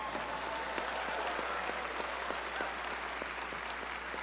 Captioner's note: audience cheering